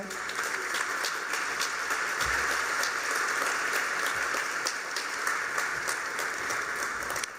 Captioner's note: applause